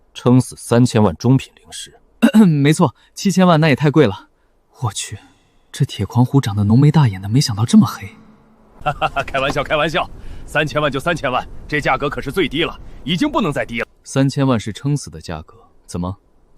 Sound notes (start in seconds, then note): 2.2 cough